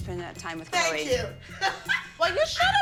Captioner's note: laughs